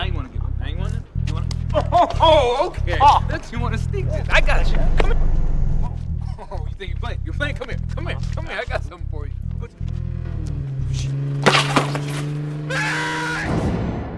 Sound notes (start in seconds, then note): 9.6 motor rumbling